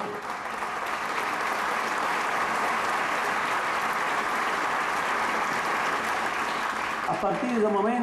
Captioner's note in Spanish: Aplausos